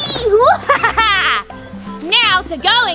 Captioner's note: laughs